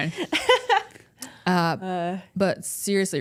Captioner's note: Bayley laughs